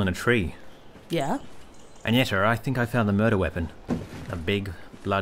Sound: clunk

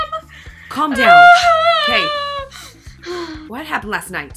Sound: wails

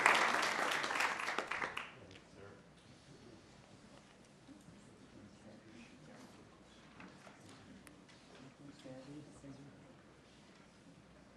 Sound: applause

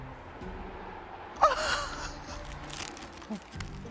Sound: laughs

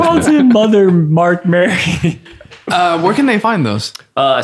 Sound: laughing

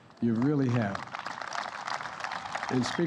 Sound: applause

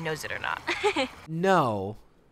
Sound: laughs

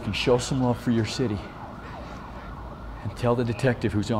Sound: sirens getting closer

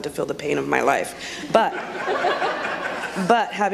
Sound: audience laughs

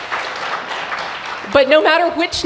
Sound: applause

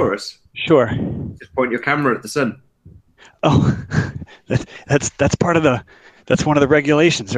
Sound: laughing

